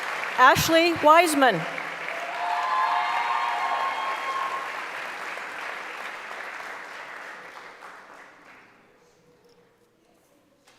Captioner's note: applause; cheering; applause